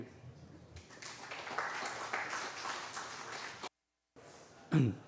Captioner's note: applause